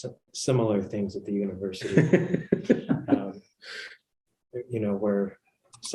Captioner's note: laughter